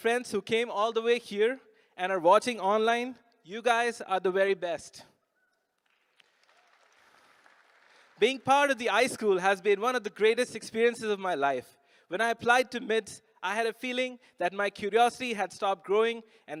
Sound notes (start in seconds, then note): 5.7 applause